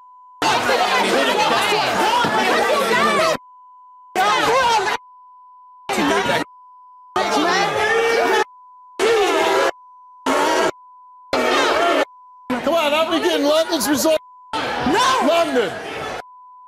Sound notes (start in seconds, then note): 2.7 audience boos